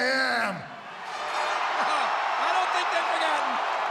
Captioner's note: audience cheering